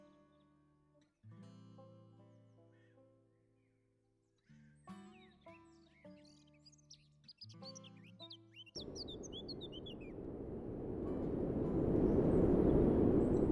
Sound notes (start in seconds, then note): 2.6 singing birds